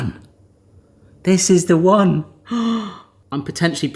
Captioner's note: gasps